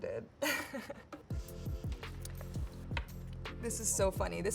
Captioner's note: chuckles